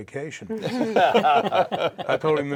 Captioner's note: all laugh